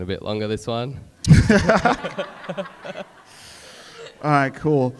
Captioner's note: audience laughs